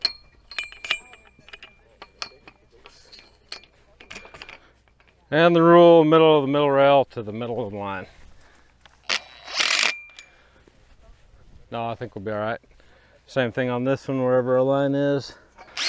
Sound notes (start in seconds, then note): 0.0 rail clanks; 8.9 drill buzzes